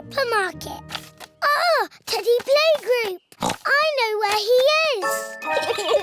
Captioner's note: oinks; both giggle